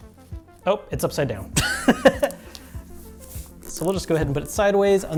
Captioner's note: laughs